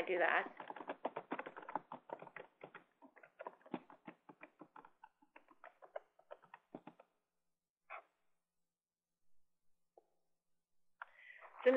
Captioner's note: typing Sounds